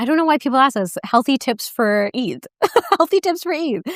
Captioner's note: laughs